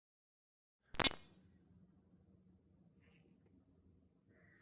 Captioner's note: static crackles